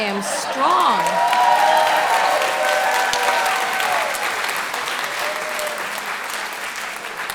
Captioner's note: audience cheering